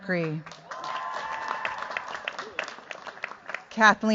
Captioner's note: cheers, applause